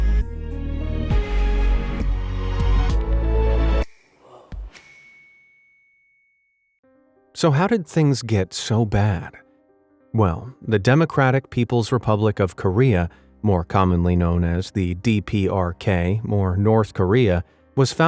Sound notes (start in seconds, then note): 1.0 gentle suspenseful music; 4.7 bell dings